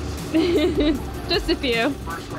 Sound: laughs

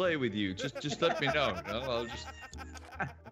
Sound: laugh

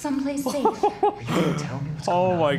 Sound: chuckles

